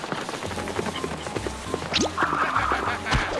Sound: laughs

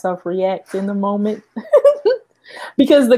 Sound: giggles

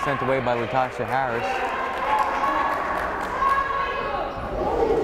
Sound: crowd cheering

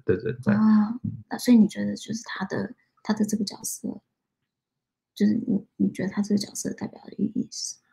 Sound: speaks mandarin

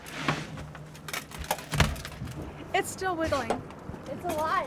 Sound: fish thrashing

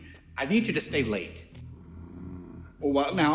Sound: disapproving growl

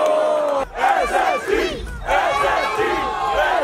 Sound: crowd

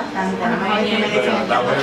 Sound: random chatter

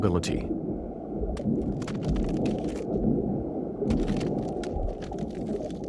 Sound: crunching continues

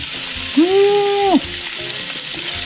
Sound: humming

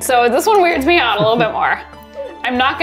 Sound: chuckling

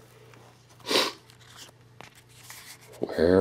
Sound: sniffs

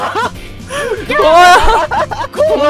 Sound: laughing

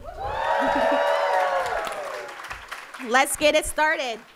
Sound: audience cheering

